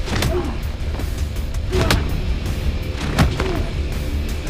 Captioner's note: both grunting